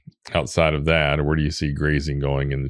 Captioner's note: both laughing